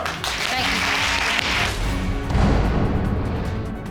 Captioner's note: audience cheers and applauds